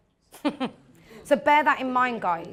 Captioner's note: chuckles